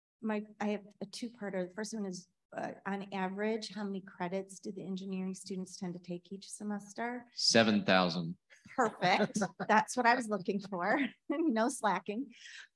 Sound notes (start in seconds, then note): 8.9 chuckling